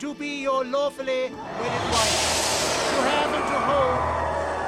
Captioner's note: hissing and growling